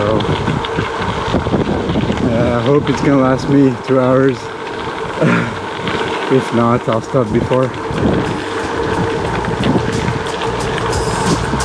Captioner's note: chuckle